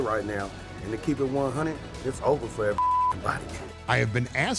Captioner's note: beep